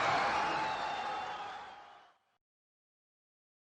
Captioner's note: crowd cheering